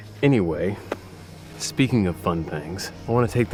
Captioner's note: none